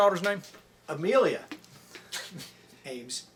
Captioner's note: chuckles